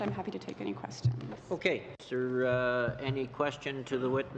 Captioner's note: speaking French